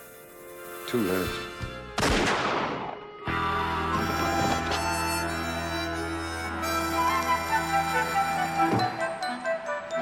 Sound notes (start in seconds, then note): 2.0 gunshot blasting; 3.3 dramatic music continues